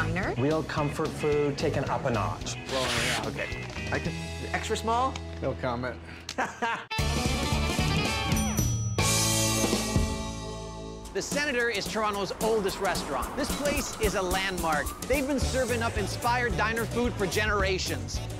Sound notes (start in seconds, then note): 6.2 laughing; 7.1 lively playful music